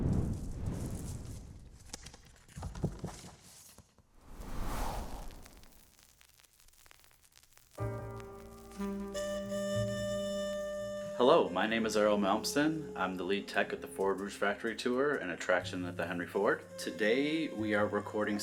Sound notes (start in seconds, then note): 0.8 ruffling paper, removing record; 5.0 record scratch; 7.8 jazz music